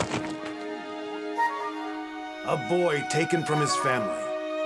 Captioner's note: thud